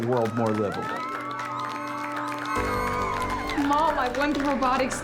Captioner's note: cheering